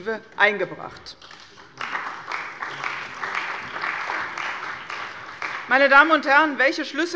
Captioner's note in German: Beifall bei der CDU und dem BÜNDNIS 90/DIE GRÜNEN